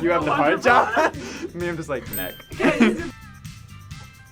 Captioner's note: laughs